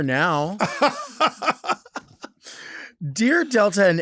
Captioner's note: Lady Bunny laughs